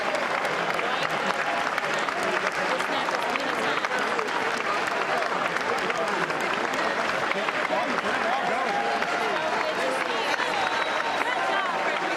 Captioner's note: applause